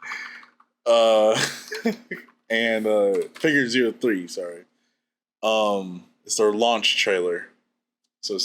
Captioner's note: laughs